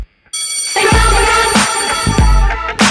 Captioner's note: bell ringing